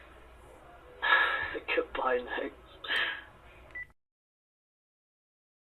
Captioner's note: laughing; phone beeps